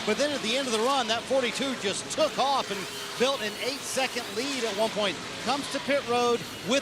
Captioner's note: mixed shouts